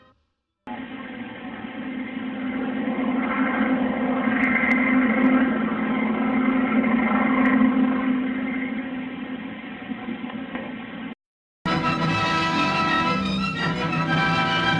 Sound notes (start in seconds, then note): 2.4 biplane propeller noises; 11.6 old-fashioned music playing